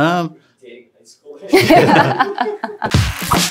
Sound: laughing

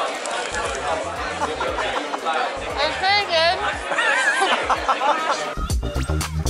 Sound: laughter

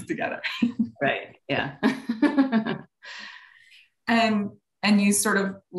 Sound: laughing

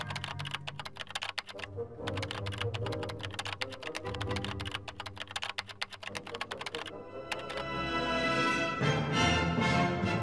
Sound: keyboard clicking continues; suspenseful music

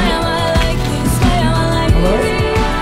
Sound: laugh

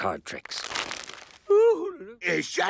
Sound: cards rustle

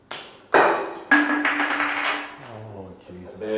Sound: bottle clangs

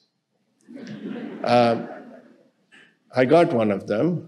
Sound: audience laughing

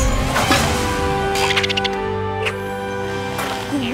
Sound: squeaking

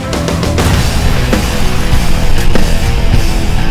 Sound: upbeat music; blasting sound; hard rock music

